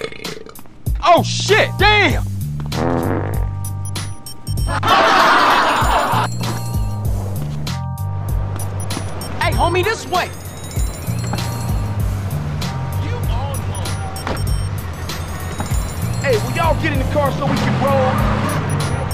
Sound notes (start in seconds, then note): 2.6 everybody laughs; 2.6 farts